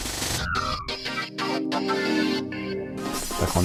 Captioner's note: speaking french